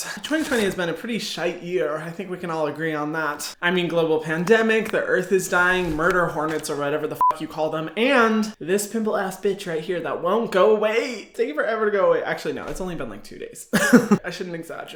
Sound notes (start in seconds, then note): 7.2 beep; 13.7 Hyram laughs